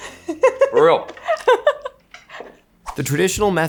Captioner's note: laughing